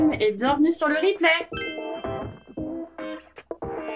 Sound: French language

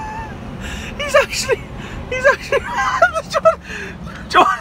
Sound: laugh

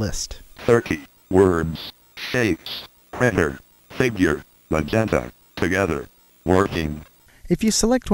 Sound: computer voice

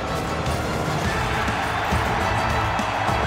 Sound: crowd cheering

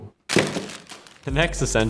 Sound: candy falling

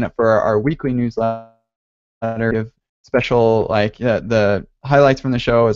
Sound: audio blurps

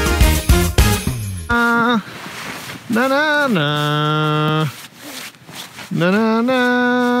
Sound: humming theme song

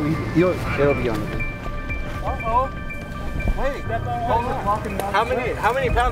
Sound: men speaking faintly

